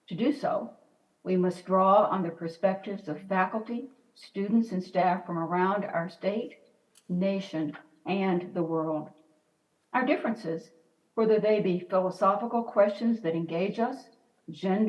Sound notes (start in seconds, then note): none